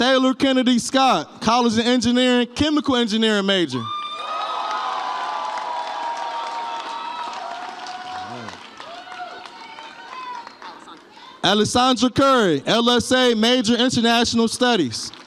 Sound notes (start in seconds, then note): 4.0 audience applauds and cheers